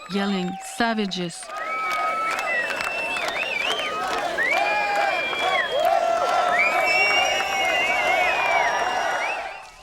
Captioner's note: crowd cheering